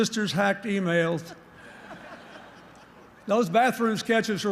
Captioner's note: laughter